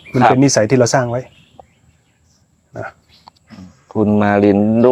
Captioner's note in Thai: เสียงสูดหายใจ